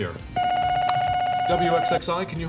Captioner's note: telephone ringing